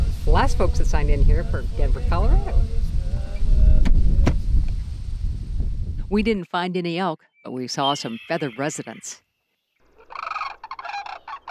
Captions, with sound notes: The last folks that signed in here are from Denver, Colorado. We didn't find any elk but we saw some feathered residents. (bird calls).